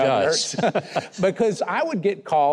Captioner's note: both chuckling